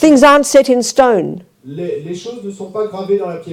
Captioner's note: French